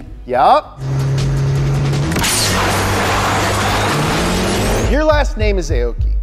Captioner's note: engines blaring